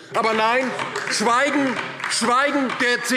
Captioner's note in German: Beifall DIE LINKE